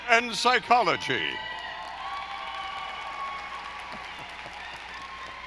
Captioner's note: audience applauding